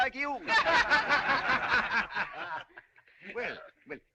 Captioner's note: جمهور يضحك